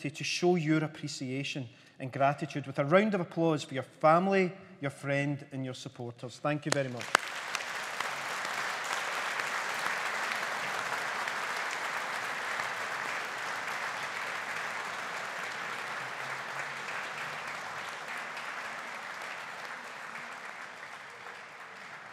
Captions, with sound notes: to show your appreciation and gratitude with a round of applause for your family, your friend, and your supporters. Thank you very much. (AUDIENCE APPLAUDING)